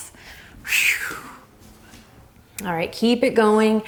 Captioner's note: exhales